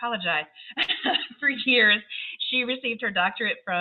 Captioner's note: laughs